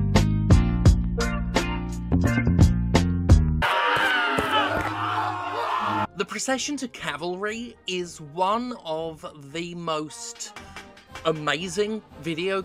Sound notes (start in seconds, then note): 3.6 screams of many crucified people